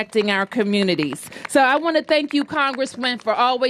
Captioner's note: applause